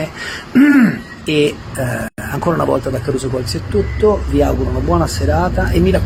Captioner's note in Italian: schiarire la voce